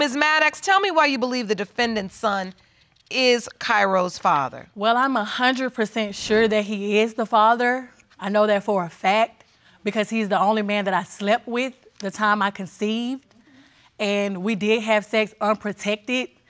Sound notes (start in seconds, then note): none